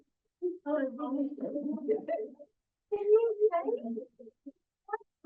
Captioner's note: background chat